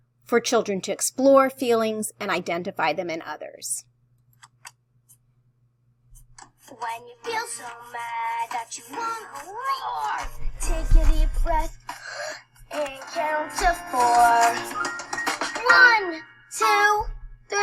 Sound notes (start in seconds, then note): 11.8 deep breathing